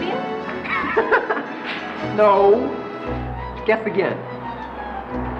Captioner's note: laughs